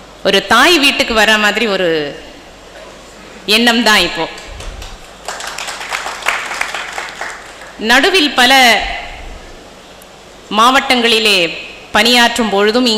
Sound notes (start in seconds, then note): 4.3 claps from audience